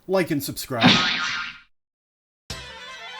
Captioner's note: POOF and BOING sound effects, then silence